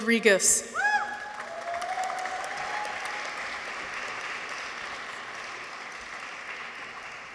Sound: people cheer; audience applauds

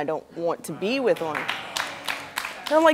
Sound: audience clapping

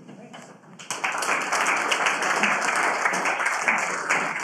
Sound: students applauding

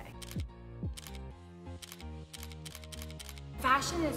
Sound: camera clicking

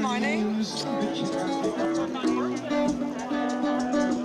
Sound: lips smacking

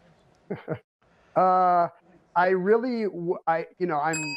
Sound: laughs

